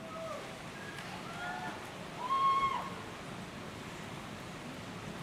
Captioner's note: people cheering